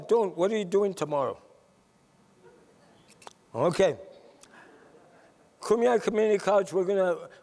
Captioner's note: laughter